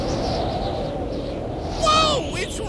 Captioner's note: wing whistling